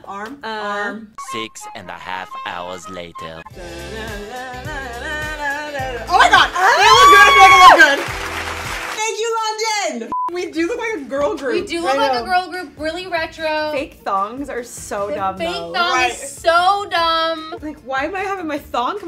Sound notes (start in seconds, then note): 3.6 upbeat music; 3.6 vocalizing; 8.4 audience applauding